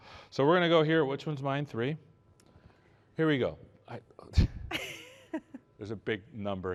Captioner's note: laughter